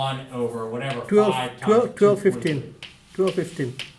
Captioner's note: voiceover